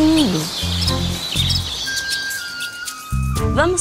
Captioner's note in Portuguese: canto de pássaros; som de água corrente